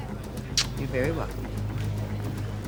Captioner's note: kisses